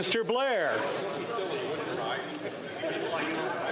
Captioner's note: speaking French